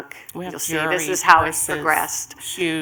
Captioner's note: multiple voices